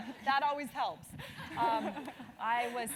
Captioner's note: laugh